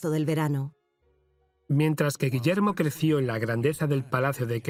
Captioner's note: voiceover